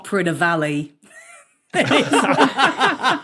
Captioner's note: wheezes; group laughing